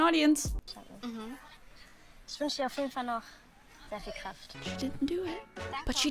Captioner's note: show contestant speaking in German